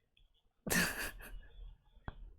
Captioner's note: laughs